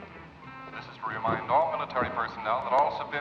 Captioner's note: voice On Loudspeaker